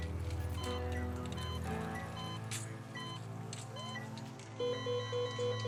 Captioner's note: machines beeping